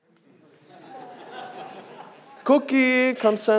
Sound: audience laughs

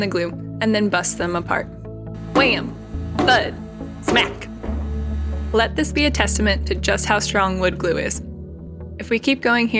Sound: wham thud smack

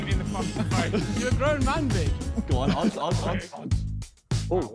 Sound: men laughing

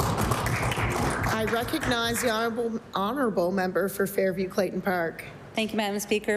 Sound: applause

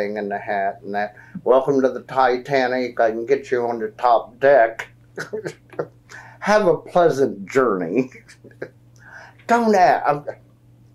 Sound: laughs

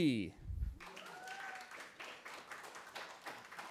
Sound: cheering

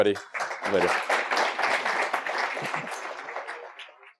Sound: applause

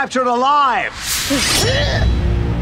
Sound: grunting

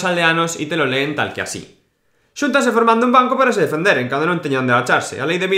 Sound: reading in galicia with strong accent

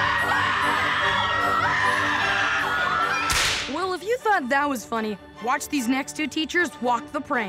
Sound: scream

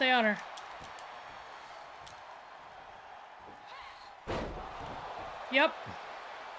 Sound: applause

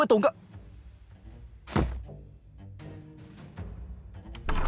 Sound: bang

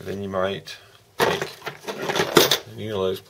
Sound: tools rattling around

